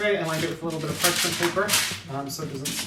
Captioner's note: paper rustling